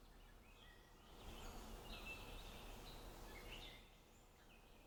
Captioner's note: birds chirping